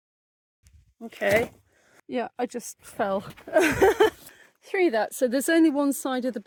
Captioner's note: laughing